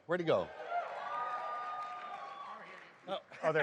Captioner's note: applause, cheers